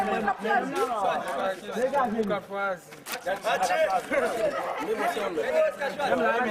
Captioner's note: speaks French; speaking French, Kreyol, mingled together